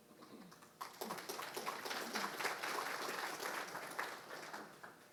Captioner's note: audience applauding